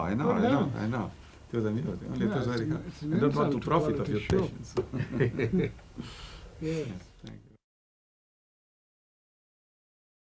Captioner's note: laughter